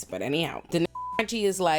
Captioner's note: beep